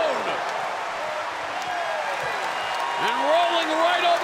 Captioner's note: crowd cheers and shouts